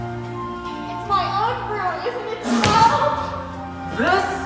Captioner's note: spits out coffee